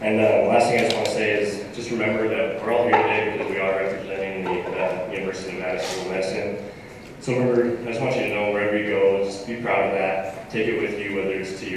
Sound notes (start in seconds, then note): none